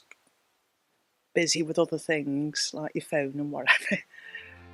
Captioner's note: laughs